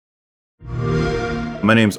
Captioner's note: xbox sound